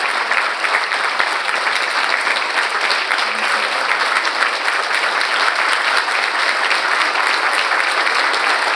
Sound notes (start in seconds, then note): 4.9 audience applauding